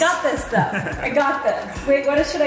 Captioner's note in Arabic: يضحك أبي